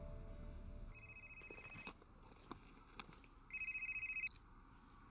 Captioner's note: phone rings